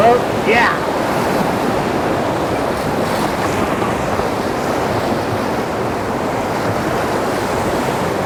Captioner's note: rushing Water Loud